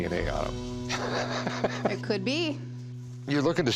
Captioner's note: laughing